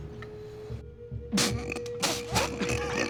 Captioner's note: coughs